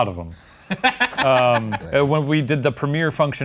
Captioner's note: laughs